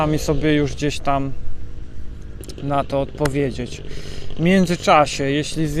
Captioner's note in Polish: parsknięcie